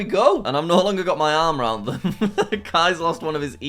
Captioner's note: laughs